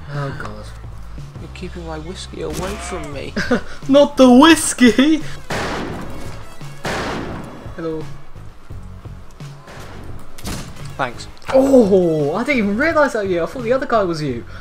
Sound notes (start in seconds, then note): 5.4 gunfire